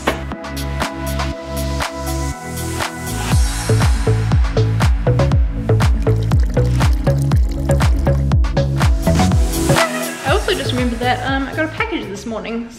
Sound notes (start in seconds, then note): 0.3 upbeat music; 5.8 gurgling